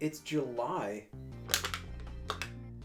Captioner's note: bottle crushing